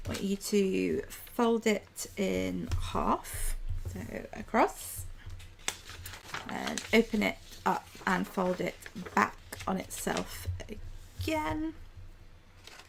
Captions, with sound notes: I want you to fold it in half, so across. [paper rustling] And open it up and fold it back on itself again.